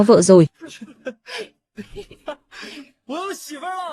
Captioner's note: tiếng cười